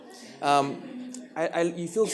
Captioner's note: audience laughs